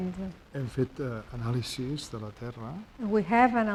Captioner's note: speaking spanish